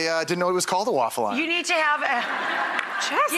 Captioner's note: audience laughter